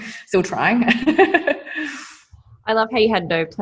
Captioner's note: laughing